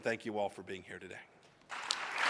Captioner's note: applause